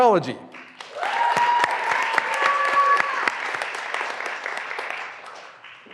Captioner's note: graduands cheering and applauding